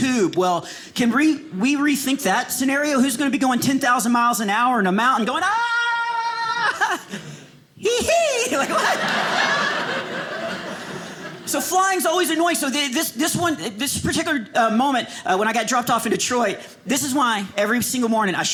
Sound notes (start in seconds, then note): 5.8 screams; 8.6 audience laughing